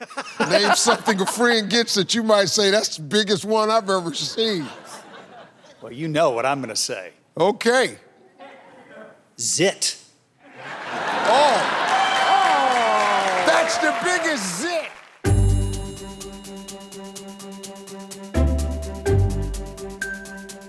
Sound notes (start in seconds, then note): 4.0 audience laughing; 10.6 audience cheering; 15.2 upbeat instrumental music